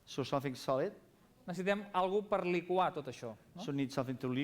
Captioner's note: non-english speech